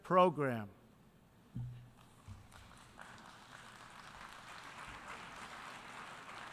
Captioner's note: applause